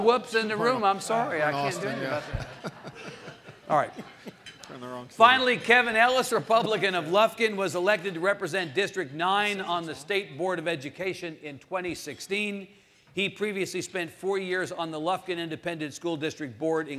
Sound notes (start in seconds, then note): 1.8 audience laughing